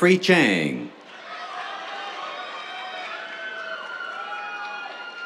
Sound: cheers, applause

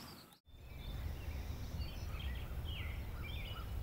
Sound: birds chirping

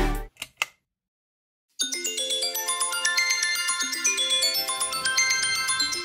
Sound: alarm

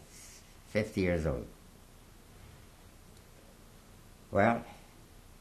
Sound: pauses for 3 seconds

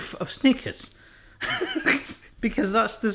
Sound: laughing

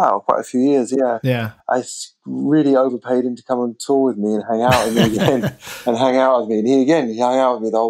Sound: laughter

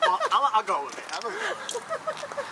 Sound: laughing

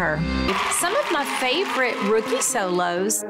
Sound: women cheer

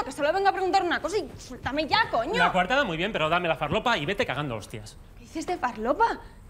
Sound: none

